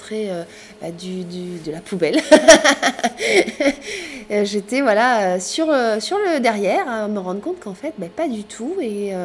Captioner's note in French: rires